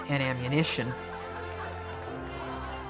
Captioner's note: laughter and applause